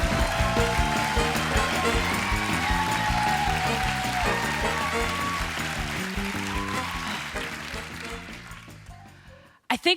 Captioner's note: cheers and applause